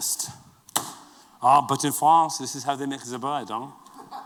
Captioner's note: french accent